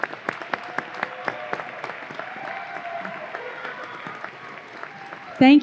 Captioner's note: audience applause